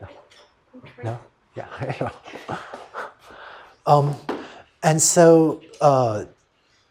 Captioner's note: laughter